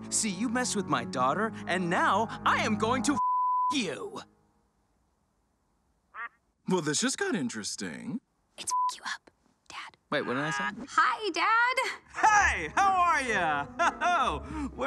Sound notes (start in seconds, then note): 3.2 beep; 8.6 beep; 13.8 Lucifer laughs